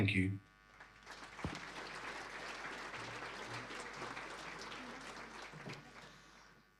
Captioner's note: audience applause